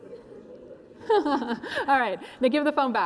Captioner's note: laughs